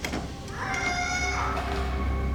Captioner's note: kitty squawks